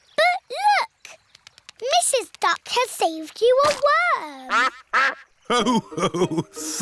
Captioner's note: quacks